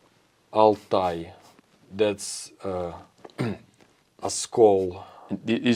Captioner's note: clears throat